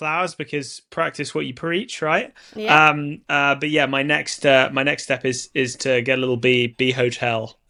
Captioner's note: none